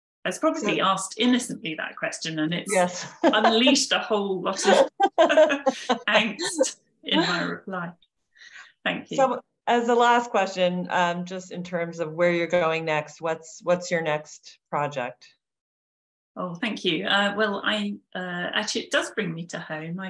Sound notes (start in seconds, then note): 4.5 laughing